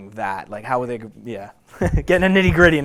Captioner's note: chuckles